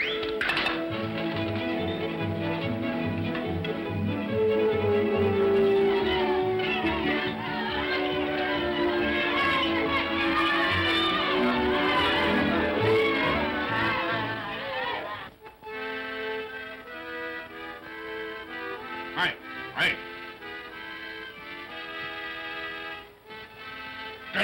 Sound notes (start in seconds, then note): 0.1 whimsical music; 5.8 children's voices; 15.3 accordion plays